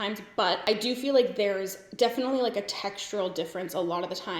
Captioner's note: none